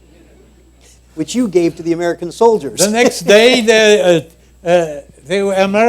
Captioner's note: laughter